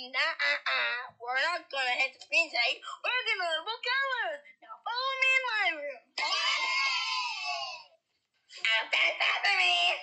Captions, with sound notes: Naaaaah! Ah Ah! We're Not Gonna Hit The Screen Today! We're Gonna Learn About Colors So Follow Me In My Room! (Kids Cheering) Open Sesame!